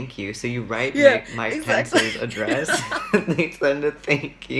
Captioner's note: laughs